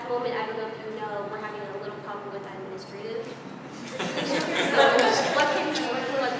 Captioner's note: laugh